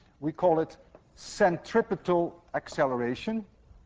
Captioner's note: none